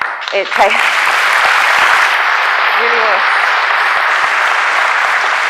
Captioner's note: applause